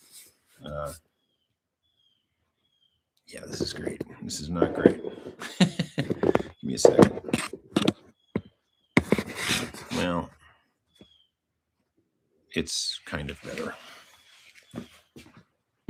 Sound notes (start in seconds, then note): 5.3 laughter